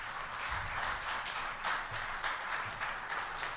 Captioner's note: applause